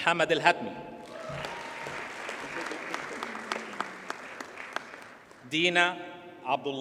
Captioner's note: audience cheers and applauds